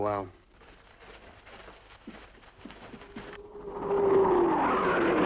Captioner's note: motor a jato ruge